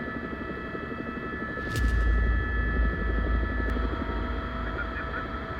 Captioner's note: helicopter